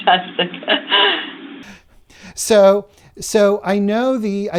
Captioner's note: laughter